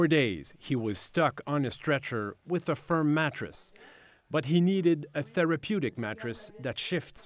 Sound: speaking French

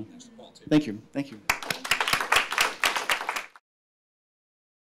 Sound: clapping

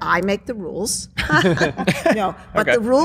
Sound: laughter

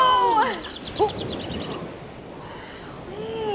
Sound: birdsong

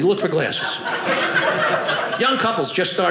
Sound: audience laughing

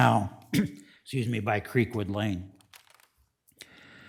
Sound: clears throat

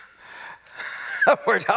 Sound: laughs

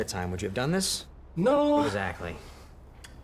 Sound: in robotic voice

